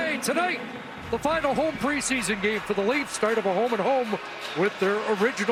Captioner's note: cheers and applause